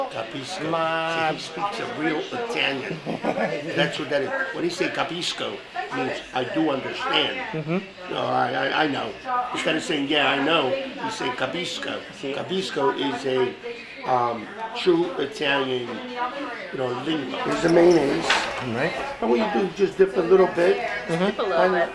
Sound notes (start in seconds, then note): 0.3 speaks Italian; 2.8 laughs; 5.9 speaks Italian; 11.9 speaks Italian